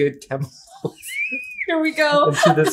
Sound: laughter

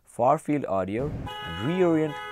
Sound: car horn

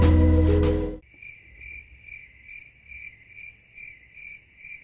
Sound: crickets

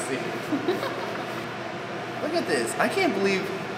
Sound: laughs

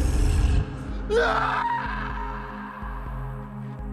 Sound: screaming

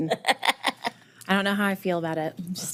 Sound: board member chuckling

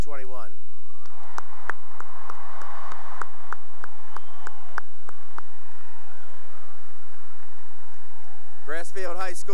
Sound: cheering and applause

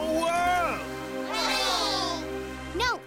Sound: cheering

